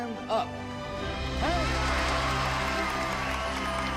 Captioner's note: people applauding